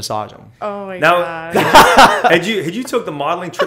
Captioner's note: laughter